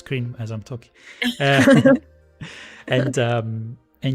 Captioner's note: laughter